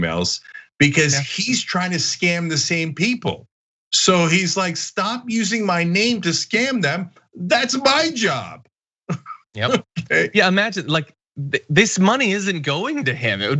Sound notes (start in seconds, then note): 9.1 laugh